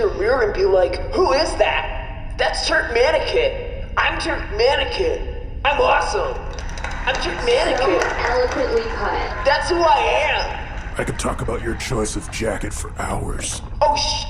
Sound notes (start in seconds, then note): 6.4 applause